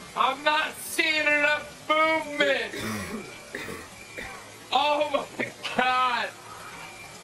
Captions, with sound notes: I'm not seeing enough movement. [cough, cough, cough] Oh my God.